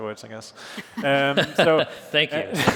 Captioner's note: laughter